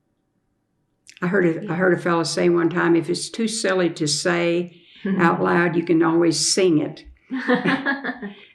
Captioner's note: laughter